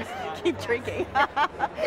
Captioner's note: laughs